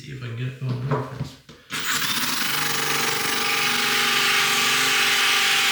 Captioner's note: drill whirring